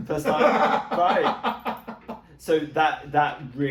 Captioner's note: laughs